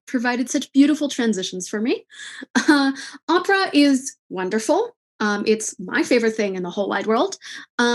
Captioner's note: laughs